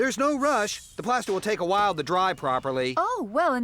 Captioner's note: none